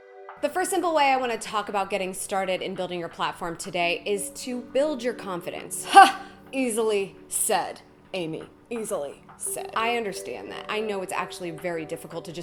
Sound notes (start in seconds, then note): 5.8 scoffs